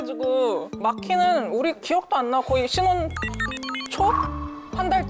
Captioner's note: sound effect: trying to remember